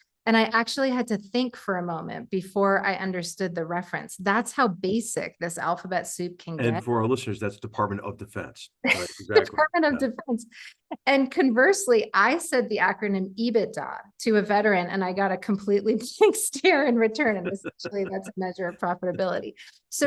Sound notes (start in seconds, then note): 8.9 laugh